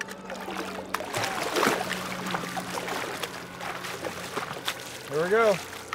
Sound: fish splashing

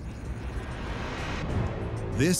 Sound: epic music; birds chirping

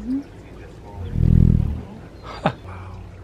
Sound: buzzing

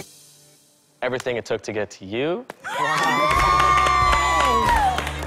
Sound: cheers and applause

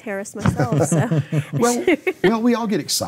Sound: laughing

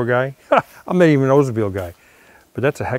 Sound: laughing

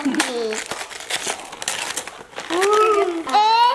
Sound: paper tearing and crinkling

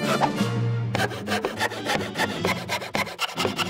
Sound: sawing faster

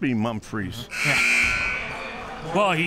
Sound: buzzer sounds

